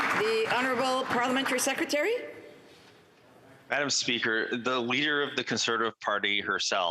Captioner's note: some Applause